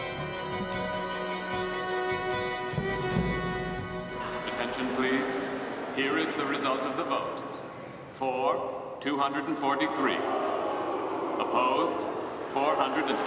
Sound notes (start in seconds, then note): 9.6 members jeering